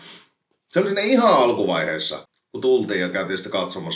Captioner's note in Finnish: niiskauttaa